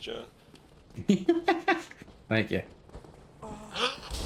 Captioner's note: laughs